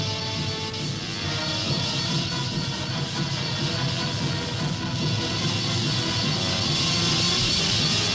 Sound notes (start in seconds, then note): 0.0 wasps buzzing; 1.2 tense orchestral music